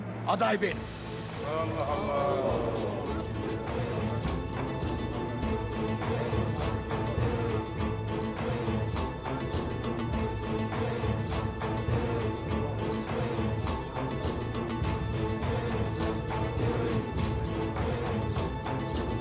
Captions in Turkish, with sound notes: ...aday benim. (Hep bir ağızdan) Allah Allah! (Kalabalık konuşma sesleri) (Müzik - Vurmalılar ve yaylılar)